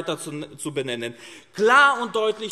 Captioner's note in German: Beifall AfD